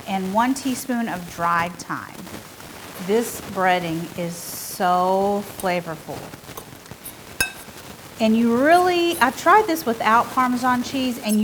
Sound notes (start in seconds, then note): 7.4 fork clanging